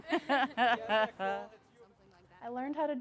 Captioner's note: all laughing